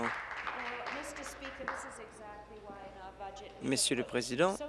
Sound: applause

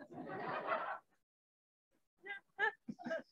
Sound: laughing

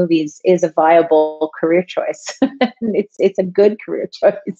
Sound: laughs

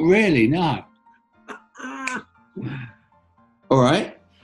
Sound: laughs and clicks finger

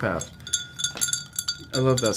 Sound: spoon hitting glass

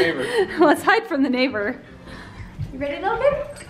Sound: laughing

